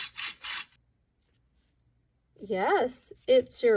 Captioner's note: hedgehog scuttling